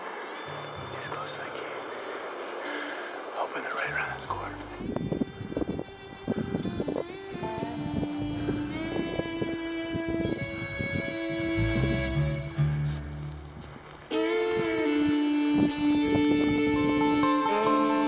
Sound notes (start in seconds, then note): 5.9 wind blowing